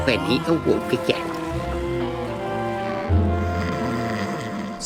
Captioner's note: Finbarr moaning; Finbarr snoring